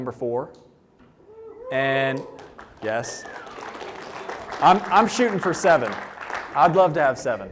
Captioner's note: applause